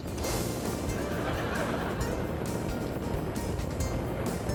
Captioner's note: audience laughing